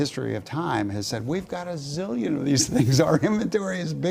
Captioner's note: laugh